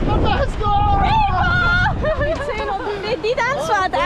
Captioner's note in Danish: laughing